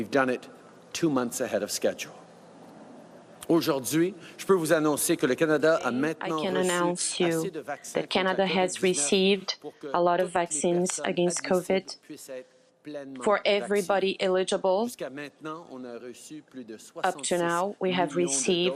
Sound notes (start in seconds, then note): 7.8 speaking French